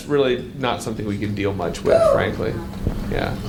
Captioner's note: audience member yelps